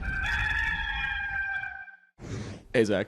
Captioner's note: rooster crowing